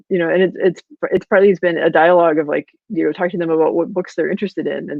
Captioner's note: voice muffled